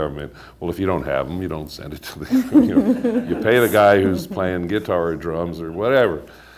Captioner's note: laughter